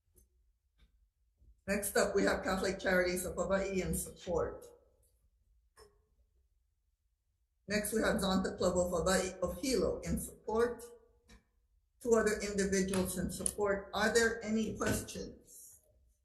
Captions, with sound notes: Next up we have Catholic Charities of Hawaii in support. Next we have (speaking Hawaiian) of Hilo in support, two other individuals in support. Are there any questions?